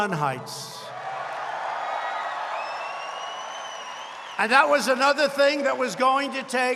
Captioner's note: applause